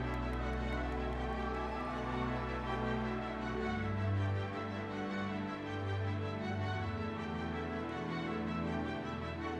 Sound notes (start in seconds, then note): 0.0 audience members cheering; 4.0 dramatic orchestral music continues